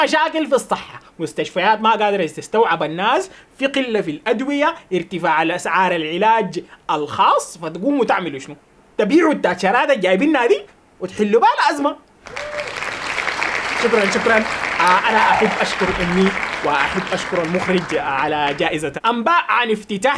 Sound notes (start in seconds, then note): 12.2 applause